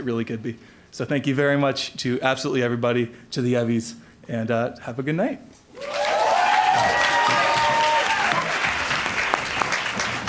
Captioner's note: applause